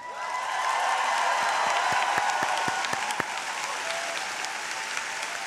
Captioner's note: audience cheering